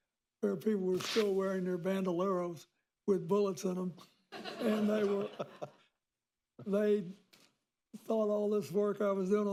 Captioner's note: laughter